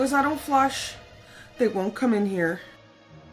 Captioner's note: scared